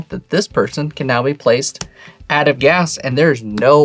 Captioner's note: card slaps